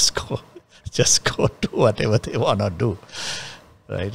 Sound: laughs

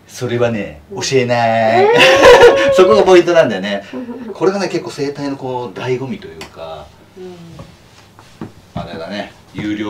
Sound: laughs

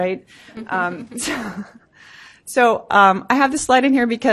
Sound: laughter

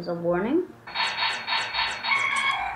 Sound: laser shots; computer trilling

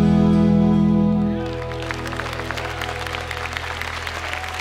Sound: cheers and applause

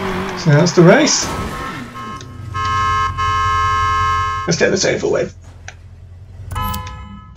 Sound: horns beeping

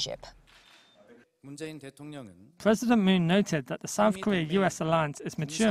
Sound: Korean

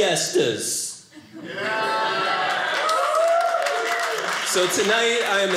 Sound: audience cheering

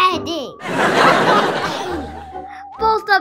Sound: audience laughing

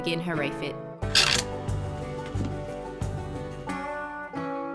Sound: creaks

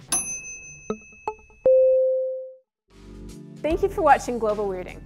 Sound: timer dings; electronic beeps

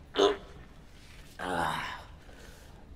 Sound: sounds of exertion

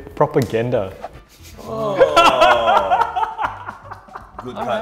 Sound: players vocalizing; laughs

